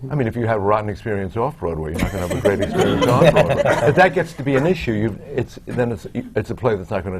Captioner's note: laughter